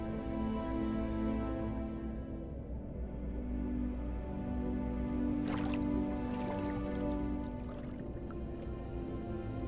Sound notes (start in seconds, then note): 0.6 water splashing; 5.4 water bubbling